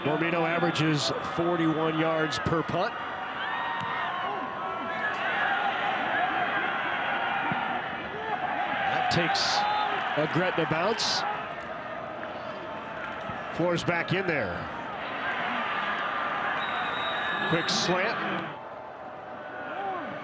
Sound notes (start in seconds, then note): 5.1 fans cheer; 11.7 referee blows whistle; 15.6 fans cheer; 16.5 referee blows whistle